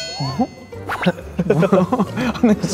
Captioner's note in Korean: 꺄륵